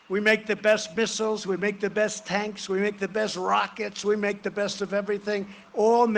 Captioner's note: cheering and applause